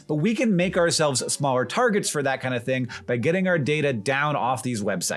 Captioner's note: none